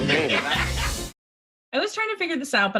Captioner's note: laughing